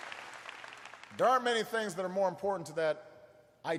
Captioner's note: applause